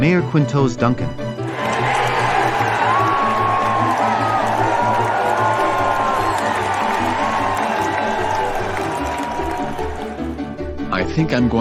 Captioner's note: audience Cheering